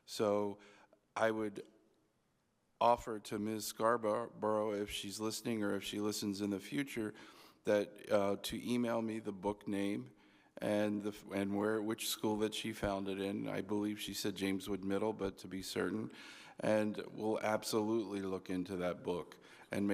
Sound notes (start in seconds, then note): none